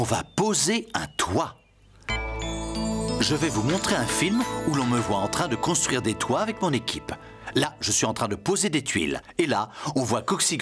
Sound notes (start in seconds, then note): 2.1 beep!